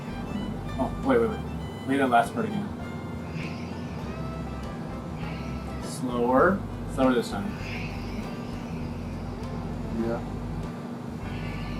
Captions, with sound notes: -Oh! Wait, wait, wait. Play that last part again. [QUIET SCREECHING] Slower. Slower this time. [SLOWED QUIET SCREECHING] -Yeah.